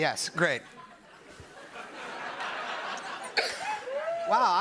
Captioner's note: laughter